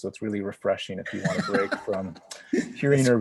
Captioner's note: laughs